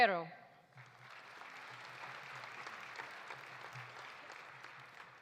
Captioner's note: audience applauding